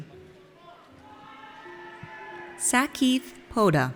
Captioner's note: audience cheers